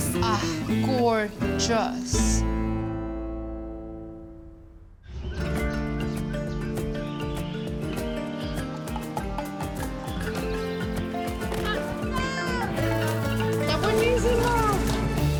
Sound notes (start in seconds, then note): 5.0 birds chirping; 11.8 child shouts